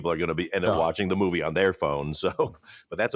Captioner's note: chuckles